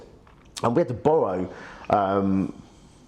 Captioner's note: none